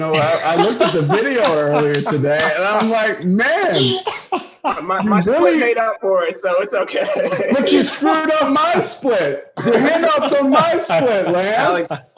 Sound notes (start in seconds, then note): 0.0 laughter; 6.6 laughter